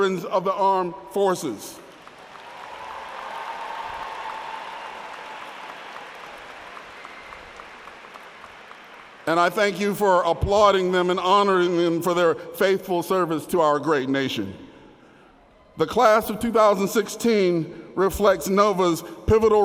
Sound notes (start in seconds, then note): 6.5 applause